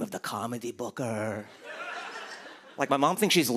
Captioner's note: laughter